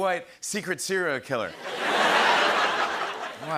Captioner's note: laughter